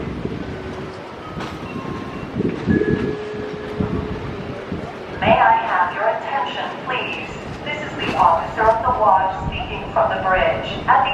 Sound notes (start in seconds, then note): 5.4 PA Announcement